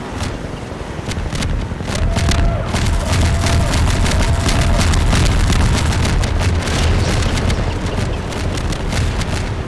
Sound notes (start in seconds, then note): 0.2 explosions; 2.0 alarm blaring; 2.8 gunfire; 6.9 explosions